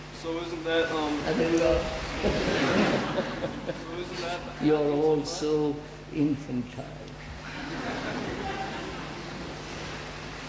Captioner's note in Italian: risate